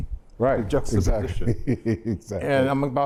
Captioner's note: laughter